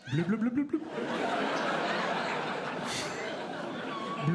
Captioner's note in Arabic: ضحك